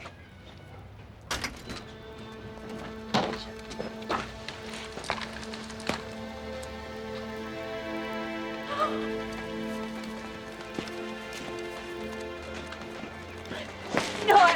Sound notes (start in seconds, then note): 2.2 melancholy music; 8.7 gasps; 11.0 melancholy music